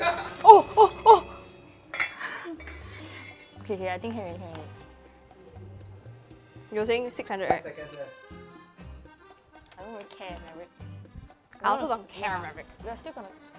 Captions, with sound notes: Oh! Oh! Oh! (Sigh of relief) Okay okay I think it's cooked already. You were saying, 600 right? I don't really care, Maverick. I also don't really care, Maverick. We're still gonna --